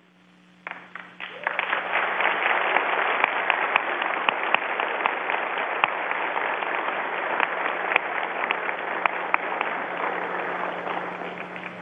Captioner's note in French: Applaudissements